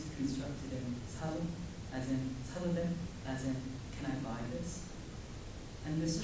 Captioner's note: korean